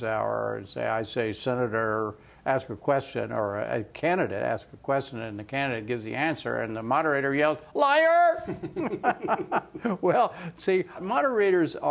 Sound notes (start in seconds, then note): 8.4 laughter